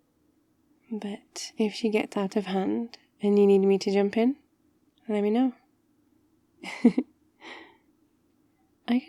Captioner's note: laughs